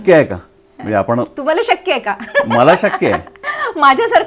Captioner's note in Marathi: हास्य